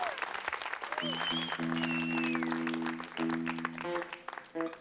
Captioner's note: crowd applause